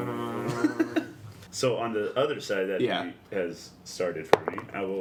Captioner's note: vibrating sounds